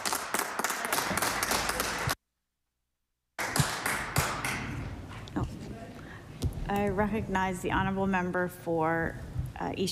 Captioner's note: applause